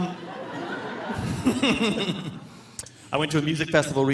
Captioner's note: all laughing